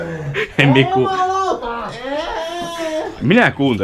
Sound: unintelligent screaming

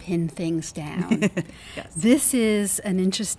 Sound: other woman laughs

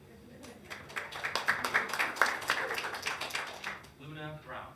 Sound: hands clapping

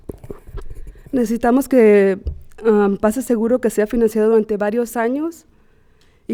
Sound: speaking Spanish

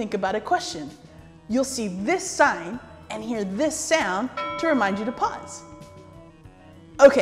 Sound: ding

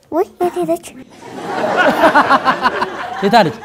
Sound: laughter

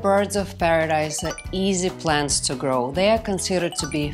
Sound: chimes twinkling

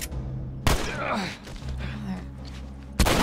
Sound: Joel grunts

